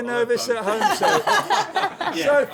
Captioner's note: laughter